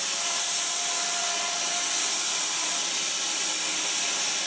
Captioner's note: saw whirring